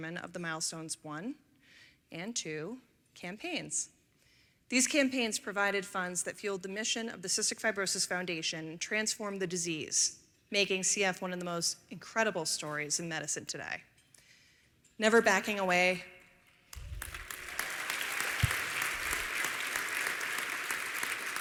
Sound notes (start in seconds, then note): 16.7 applause